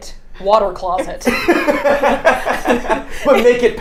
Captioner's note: both laughing